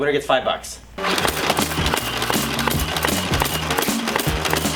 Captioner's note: Nerf shooting